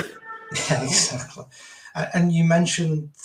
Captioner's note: laughs